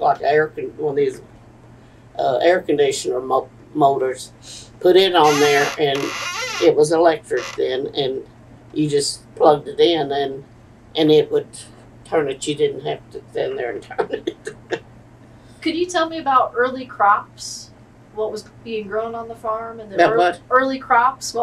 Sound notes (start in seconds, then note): 13.8 laughs